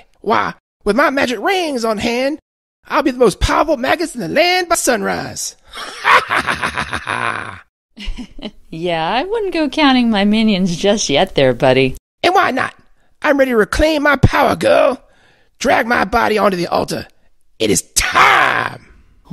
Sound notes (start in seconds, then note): 5.7 regular laugh; 5.7 maniacal laugh